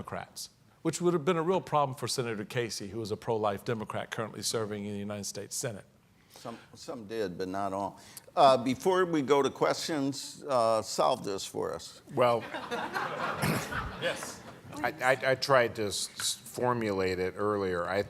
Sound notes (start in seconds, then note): 12.3 audience laughing